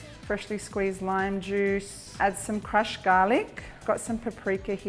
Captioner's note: none